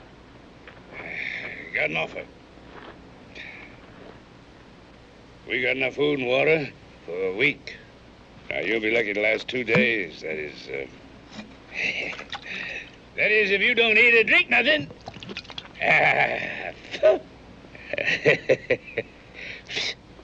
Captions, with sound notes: I got an offer. We got enough food and water for a week. Now, you'll be lucky to last two days, that is... [chuckles] That is if you don't eat or drink nuthin'! - [laughing] - [spits] [laughing]